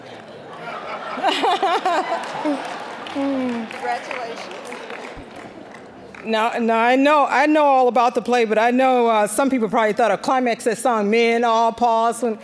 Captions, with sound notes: (all laughing) >> Congratulations. >> Now, I know all about the play, but I know some people probably thought a climax to the song-- men-o-pause.